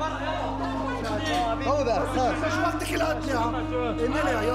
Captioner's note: arab spoken audio